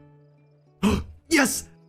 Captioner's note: gasp